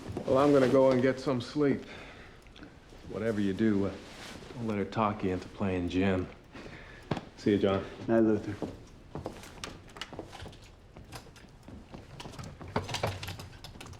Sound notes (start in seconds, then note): 9.3 door opening